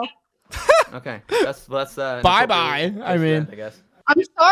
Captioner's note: laughs